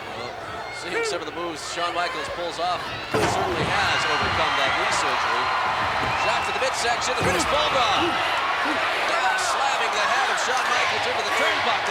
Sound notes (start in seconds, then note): 2.8 blows thudding; 5.5 crowd cheering